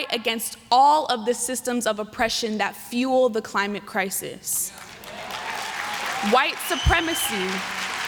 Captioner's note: applause